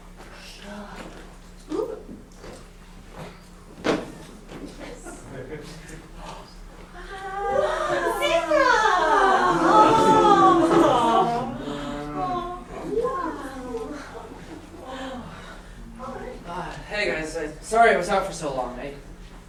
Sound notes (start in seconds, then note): 7.1 sailors exclaiming in delight in grammelot; 9.1 speaking grammelot